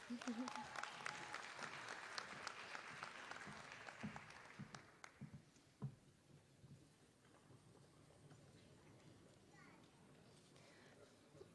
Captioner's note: applause